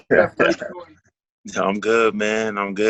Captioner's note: laughs